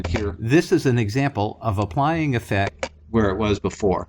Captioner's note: voiceover